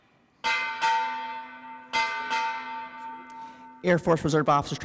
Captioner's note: bell ringing